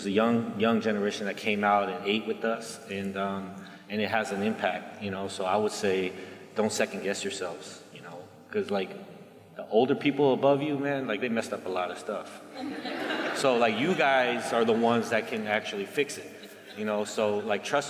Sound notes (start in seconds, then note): 12.5 laughter